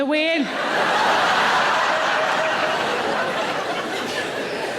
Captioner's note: audience laughing